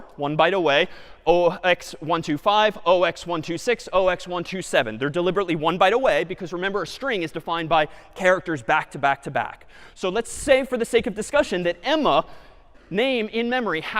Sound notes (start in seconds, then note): none